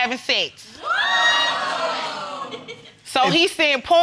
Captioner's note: crowd reacting